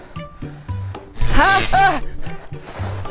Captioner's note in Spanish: Gritos